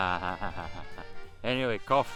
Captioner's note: laughing